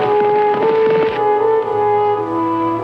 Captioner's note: tense orchestral music; horse trotting; pensive orchestral music